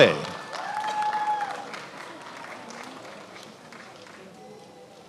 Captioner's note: attendees applauding